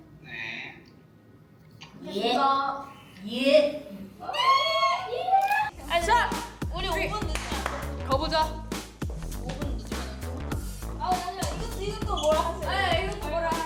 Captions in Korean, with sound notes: 그렇게 급 성사된 팀장님과의 만남 (짝짝) 가보자 멤버들의 비장함에 네오도 긴장;;